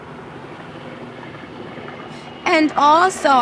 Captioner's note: airplane engine roaring